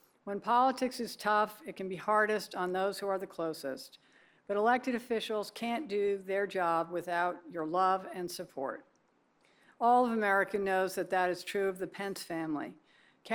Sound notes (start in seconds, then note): none